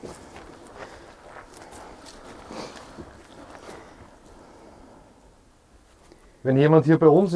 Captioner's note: wind in the background